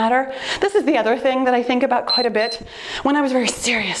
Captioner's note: timer beeps